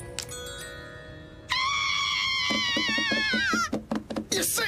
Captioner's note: both screaming